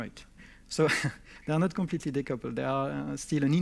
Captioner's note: chuckles